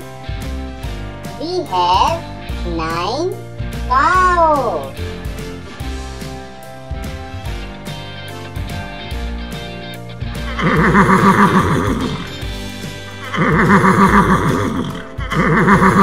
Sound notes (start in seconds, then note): 2.7 horse Sound